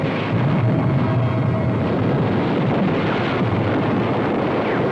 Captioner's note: artillery blasting; debris rumbling